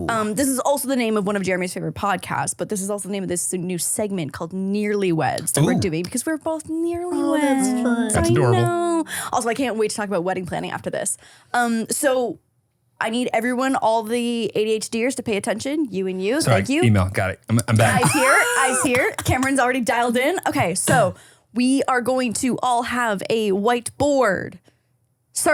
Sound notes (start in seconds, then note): 17.6 laugh